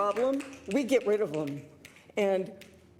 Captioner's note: some Applause